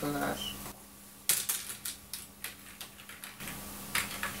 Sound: typing

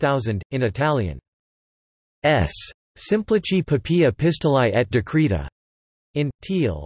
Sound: in Italian

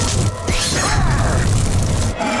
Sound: grunting

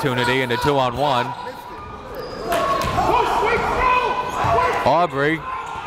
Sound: crowd cheers and jeers

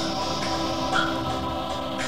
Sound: chime plays

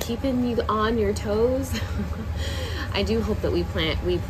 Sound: laughs softly

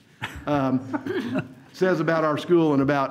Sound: all laugh

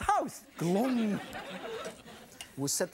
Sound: audience laughs

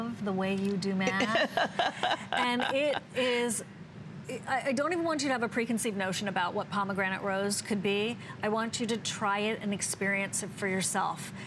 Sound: laughter

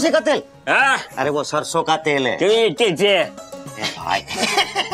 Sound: talking gibberish; chuckling

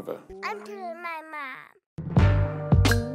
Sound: baby mumbling; upbeat funky music

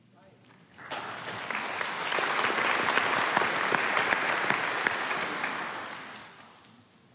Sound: applause

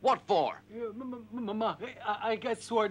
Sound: stuttering

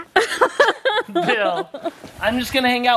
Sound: laughing

